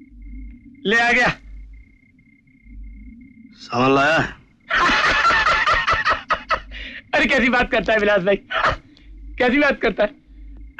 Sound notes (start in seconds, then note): 4.7 laughs